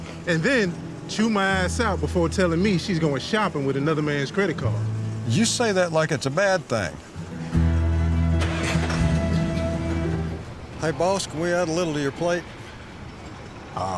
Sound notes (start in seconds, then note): 9.2 engine whirs